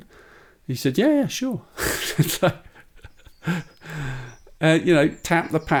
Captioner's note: laughs